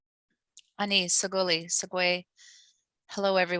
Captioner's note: speaking in foreign language